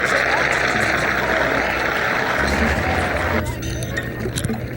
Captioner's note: crowd applauds; laughs; Arthur narrates in distance; ominous ambient music